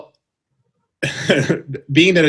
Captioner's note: chuckles